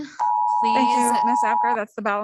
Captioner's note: timer beeping